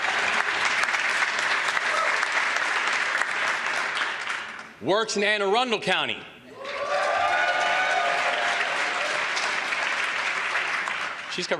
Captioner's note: applause